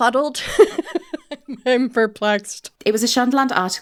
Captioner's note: laughing